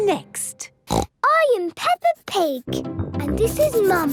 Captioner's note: snorts